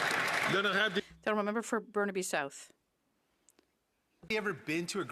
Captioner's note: some Applause